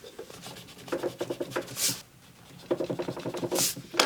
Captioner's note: eraser scrubbing; chair scraping